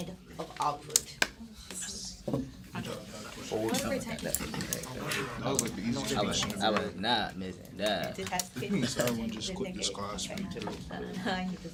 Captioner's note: students murmur